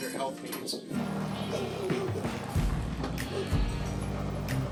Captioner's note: goats bleating